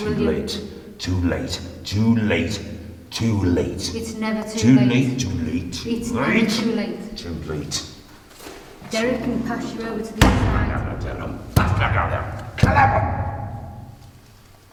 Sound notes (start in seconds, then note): 10.2 slamming